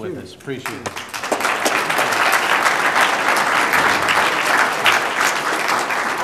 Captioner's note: applause